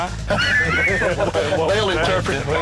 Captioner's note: lalaugughthterer